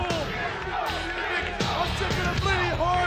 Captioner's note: audience chanting; smooth music